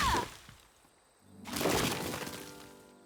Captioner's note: crashing